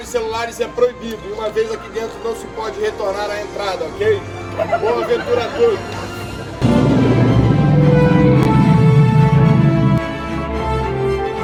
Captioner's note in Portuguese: risos